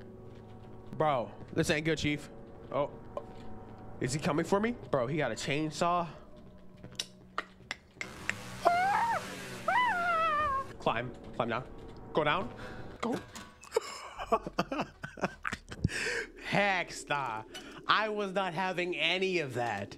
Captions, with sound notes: Bro, this ain't good, Chief. Oh, is he coming for me? Bro, he got a chainsaw. [clicking] [screaming] Climb. Climb now. Go down. Go. [laughing] Hex Nah. I was not having any of that.